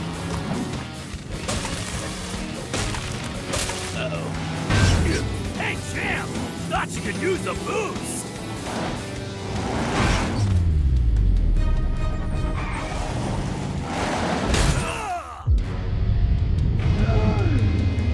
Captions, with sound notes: Uh-oh. [crashing] Hey, champ, thought you could use a boost! Ugh! Whoa!